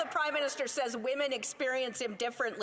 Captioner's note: some Applause